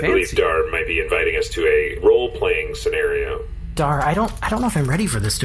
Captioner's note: hushed